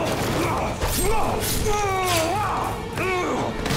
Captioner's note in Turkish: Haykırma sesi